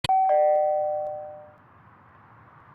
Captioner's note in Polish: dzwonek do drzwi